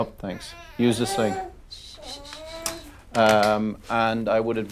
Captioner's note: crying